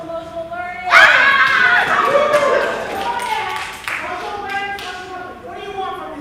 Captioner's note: applause